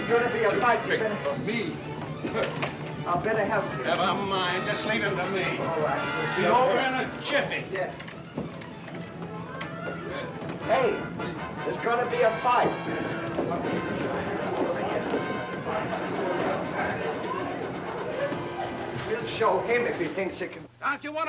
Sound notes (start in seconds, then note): 2.2 gentle music; 15.0 gentle music; 15.0 people chattering